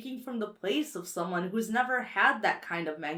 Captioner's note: none